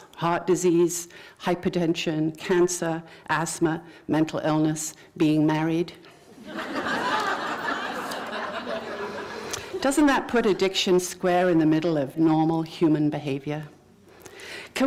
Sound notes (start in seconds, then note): 6.2 laughter